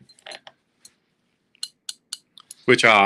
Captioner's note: forceps clanking